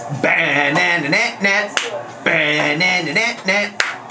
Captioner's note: vocalizes